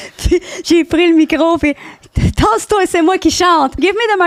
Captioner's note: laughing; in french